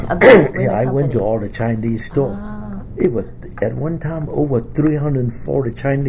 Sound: coughs

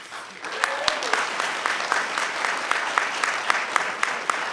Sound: cheering, clapping

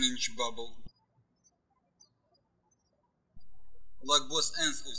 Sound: birds chirping

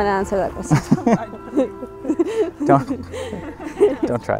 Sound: laughs

